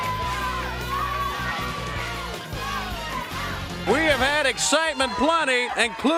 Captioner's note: crowd chatter